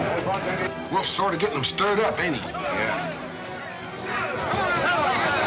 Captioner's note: men yelling simultaneously